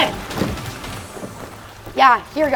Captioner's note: water splashing